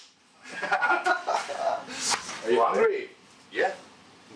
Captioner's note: laughter